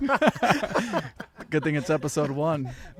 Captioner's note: all laughing